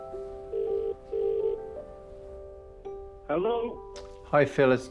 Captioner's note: gentle hopeful music; phone ringing